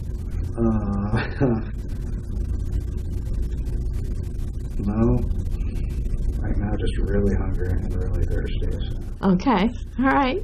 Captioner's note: laughs